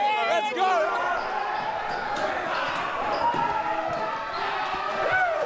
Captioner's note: players cheering